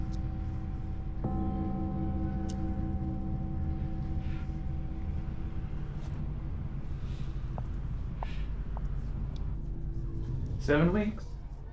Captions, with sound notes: [Sound of church bell] [Sarah exhales] Seven weeks...